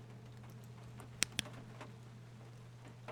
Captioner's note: flashlight Clicks On